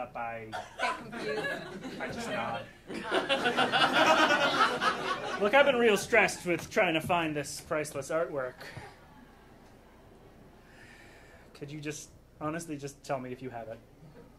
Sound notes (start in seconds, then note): 2.8 audience laughing